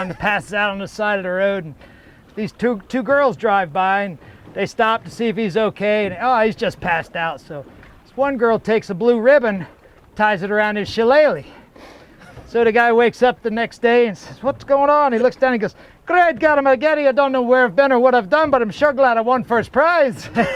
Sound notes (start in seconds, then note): 16.0 Scottish accent